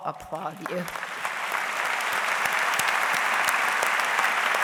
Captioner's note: audience applauds